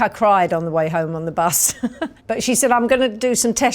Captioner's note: chuckles